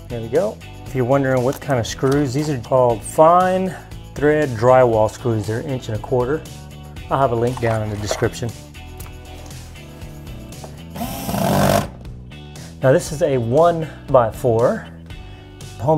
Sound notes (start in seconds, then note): 10.8 drilling sound